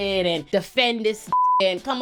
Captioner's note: beep